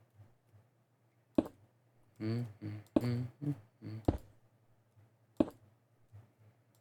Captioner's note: quiet humming